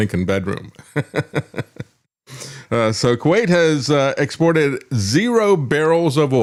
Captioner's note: laugh